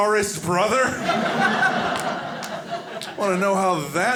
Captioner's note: audience laughing